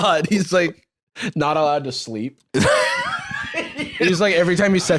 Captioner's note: laughs